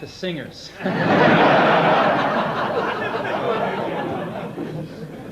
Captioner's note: audience laughing